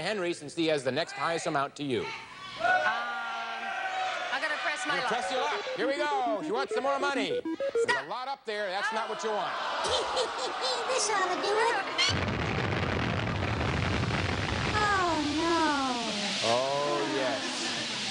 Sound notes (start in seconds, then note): 2.6 audience shouting; 9.8 Whammy giggles